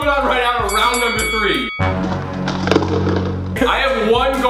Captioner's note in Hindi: घंटी बजती है; अशुभ संगीत